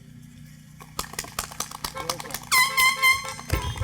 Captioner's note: applause